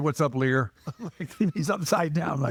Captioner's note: laughing